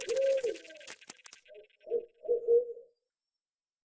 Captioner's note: owl hooting